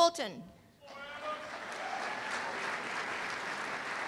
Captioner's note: applause